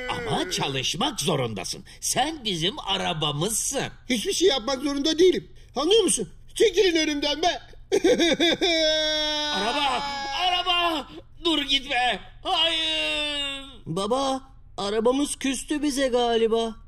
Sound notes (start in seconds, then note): 8.0 cries